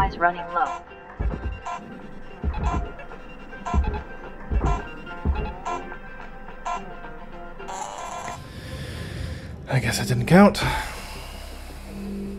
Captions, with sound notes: I guess that didn't count (sigh) ....